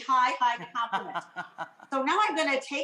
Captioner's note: laughs